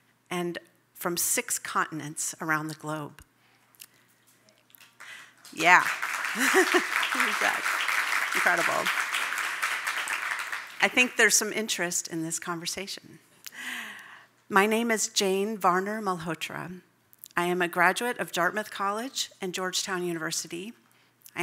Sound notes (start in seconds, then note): 4.9 audience applauding; 6.3 laughs